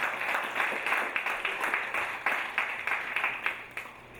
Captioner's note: audience applauding